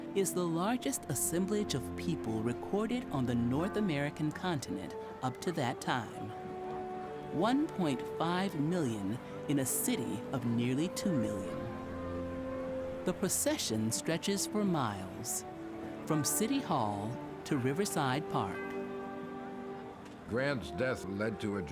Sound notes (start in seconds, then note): 17.9 crowd murmurs